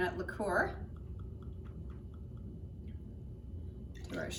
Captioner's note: pouring sound